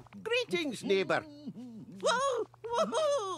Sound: goofy Humming

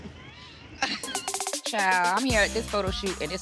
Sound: laughing

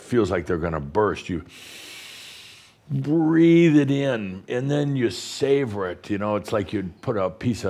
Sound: Adamus takes a deep breath

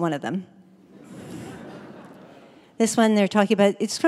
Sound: audience Laughter

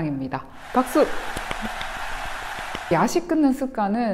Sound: clap clap clap

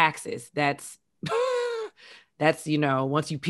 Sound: chuckles

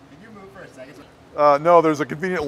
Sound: voiceover

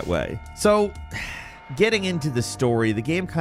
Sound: sighs

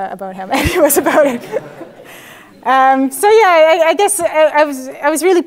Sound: laugh

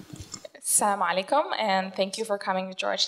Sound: foreign language

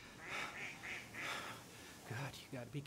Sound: ducks quack

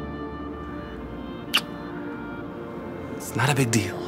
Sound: kiss sound

